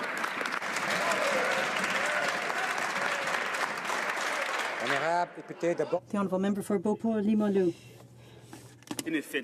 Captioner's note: some Applause